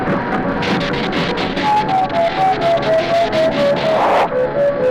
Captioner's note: electricity zapping